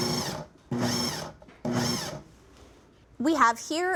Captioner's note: whirring